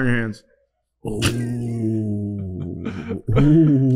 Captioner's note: laughing